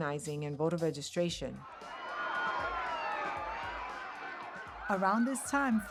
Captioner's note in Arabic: الناس يصرخون; صفارات الإنذار تصرخ